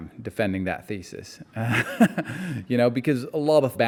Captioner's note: laughing